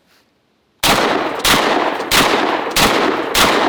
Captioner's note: gunshots